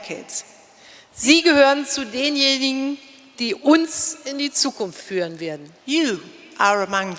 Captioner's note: speaking in German